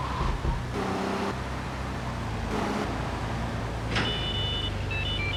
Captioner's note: beeping